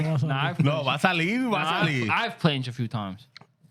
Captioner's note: speaking Spanish